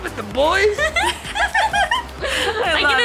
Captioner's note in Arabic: ضحك